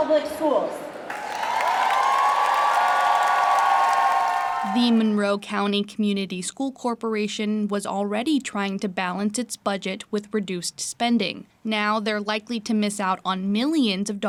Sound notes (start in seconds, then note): 3.8 cheers